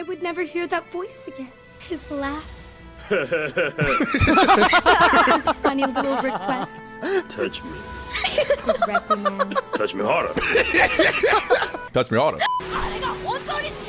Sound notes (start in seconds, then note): 3.8 laughing effect; 4.7 everyone laughing; 10.4 everyone laughing; 13.7 speaking in foreign language